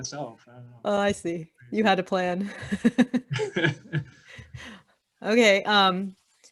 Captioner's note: laughing